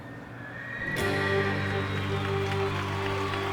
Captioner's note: horse neighs; cheers and applause